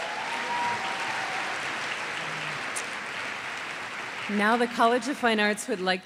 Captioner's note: applause